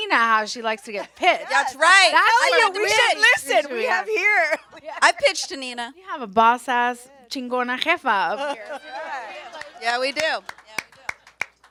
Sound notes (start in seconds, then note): 7.0 speaks Spanish; 10.0 claps